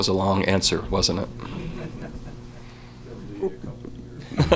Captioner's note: laughter